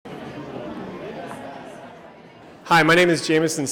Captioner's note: background chatter